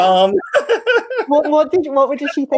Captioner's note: laughs